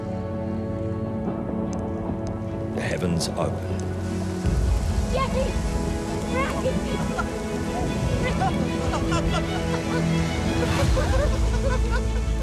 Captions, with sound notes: -[thunder rumbling] -[raindrops falling] ...the heavens open. James! James! [laughing and crying] [both laughing]